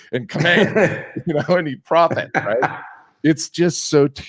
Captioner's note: laughs